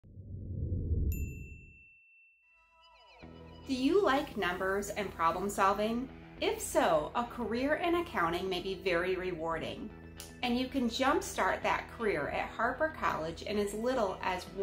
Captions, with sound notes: [Bell dings as Destination Harper appears] [Background music begins] Do you like numbers and problem solving? If so a career in accounting may be very rewarding, and you can jump start that career at Harper College in as little as